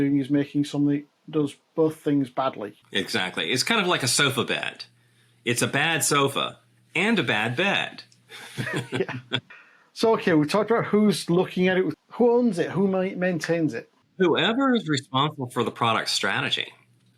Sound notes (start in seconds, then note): 8.3 both laughing